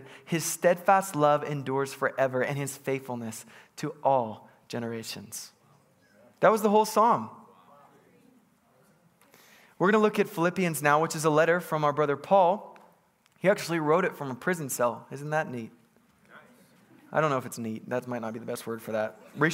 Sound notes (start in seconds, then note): 8.6 congregants bustling